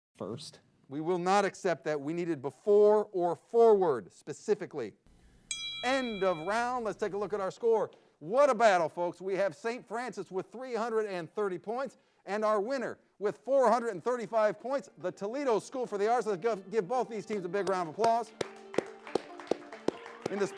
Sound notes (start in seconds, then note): 5.3 bell dings; 17.2 all applaud